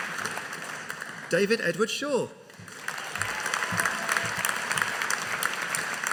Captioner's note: audience applauding